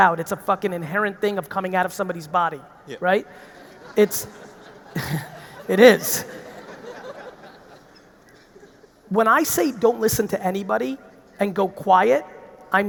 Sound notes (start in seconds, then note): 3.4 audience laughing; 3.5 laughs